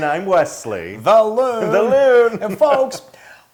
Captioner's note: laugh